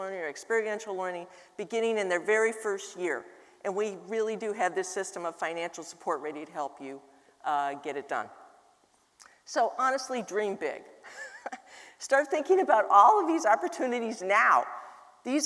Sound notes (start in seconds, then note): 11.1 laughs